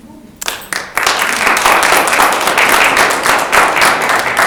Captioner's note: audience applauds